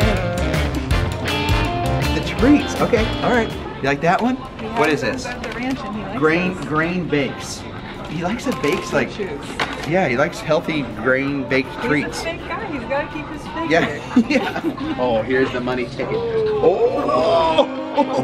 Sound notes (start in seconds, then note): 13.7 laughs